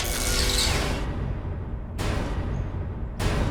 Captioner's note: buzzing and crackling